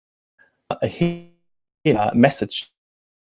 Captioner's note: distortion muffles speaker